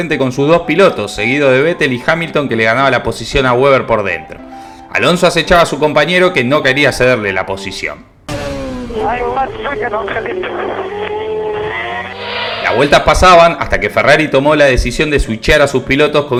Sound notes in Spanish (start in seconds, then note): 8.3 radio